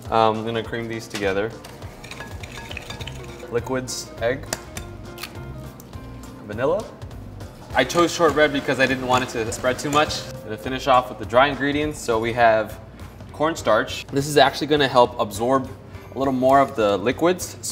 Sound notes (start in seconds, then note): 1.6 beaters clink against glass; 5.0 taps and cracks egg